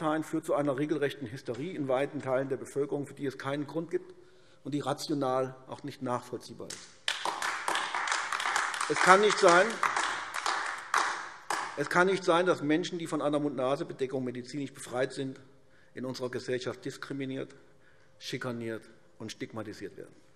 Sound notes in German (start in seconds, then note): 6.7 Beifall AfD